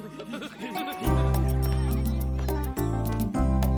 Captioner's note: giggling